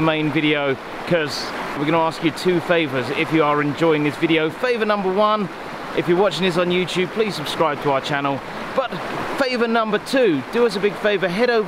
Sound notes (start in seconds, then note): none